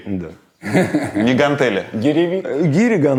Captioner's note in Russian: смеётся